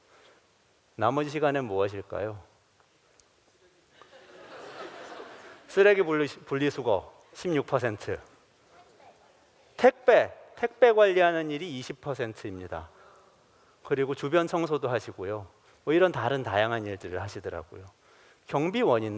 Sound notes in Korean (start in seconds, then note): 3.9 웃음